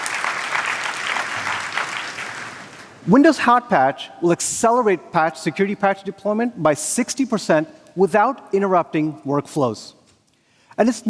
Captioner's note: applause